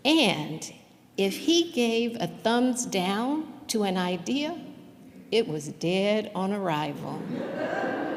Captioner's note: laughter